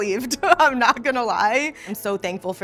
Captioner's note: laughing